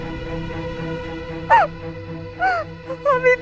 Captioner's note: Meher crying